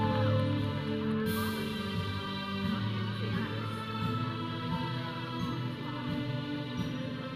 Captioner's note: audience cheering; processional music; audience chattering